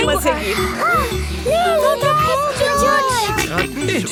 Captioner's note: panting; snorts